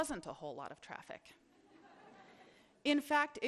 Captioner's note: chuckling